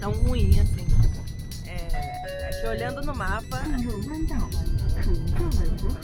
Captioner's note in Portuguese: voz do ônibus me interrompe